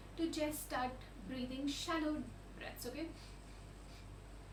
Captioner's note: shallow breaths